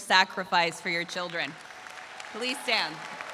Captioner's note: audience applauds